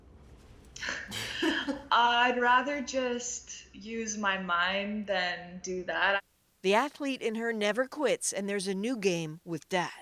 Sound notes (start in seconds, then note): 0.9 laughter